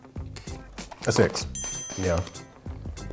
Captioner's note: bell ringing